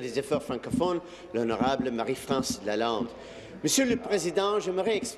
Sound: speaking in French

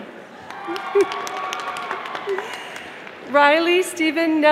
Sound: audience applauding

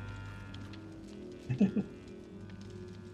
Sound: chuckles

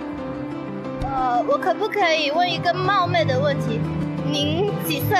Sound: in mandarin

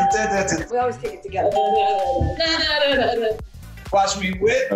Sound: hums

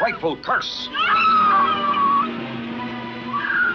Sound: screams

